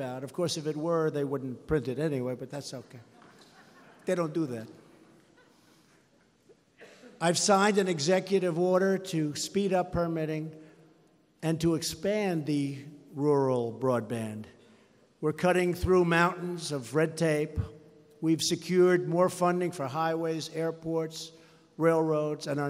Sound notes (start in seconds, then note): 2.9 laughter